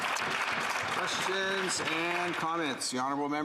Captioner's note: applause